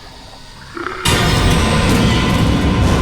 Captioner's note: Huram snarls